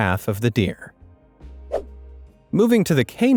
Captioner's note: swoosh